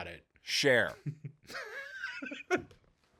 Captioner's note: laughing